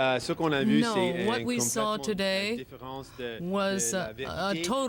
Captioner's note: speaking French